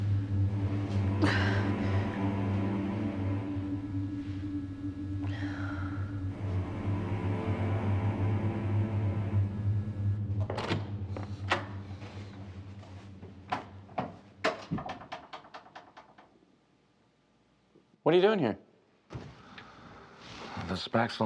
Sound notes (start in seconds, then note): 1.4 dramatic music; 10.2 door opening; 14.4 door closing